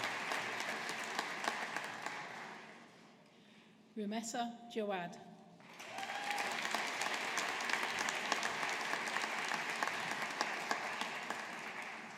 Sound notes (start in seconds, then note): 5.7 audience applauding